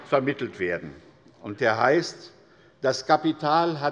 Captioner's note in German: Zurufe von der CDU